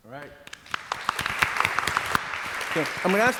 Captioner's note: audience applauds